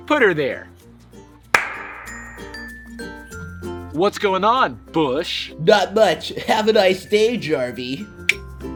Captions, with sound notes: Put 'er there! (high five clap) What's going on, Bush? - Not much, have a nice day, Jarvey.